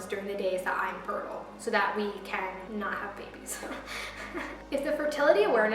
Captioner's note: awkward laugh